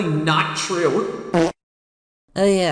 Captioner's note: fart of revelation